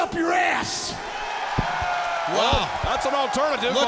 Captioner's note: audience cheering